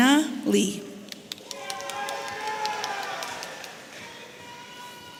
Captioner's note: audience cheering